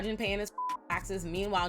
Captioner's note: beep